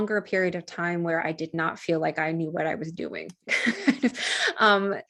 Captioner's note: chuckles